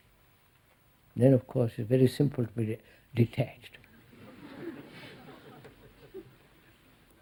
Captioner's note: laughter